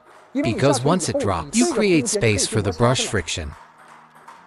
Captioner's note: friction